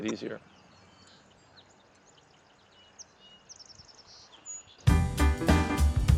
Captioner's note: birds chirping